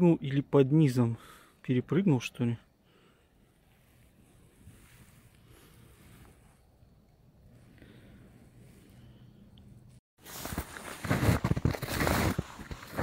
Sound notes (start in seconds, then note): 2.3 snow crunch